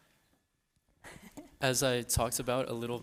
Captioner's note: laughing